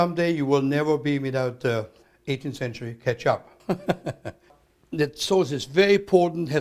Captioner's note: laughs